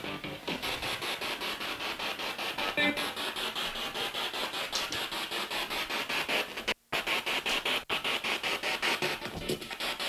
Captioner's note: sound of the Spirit Box in the background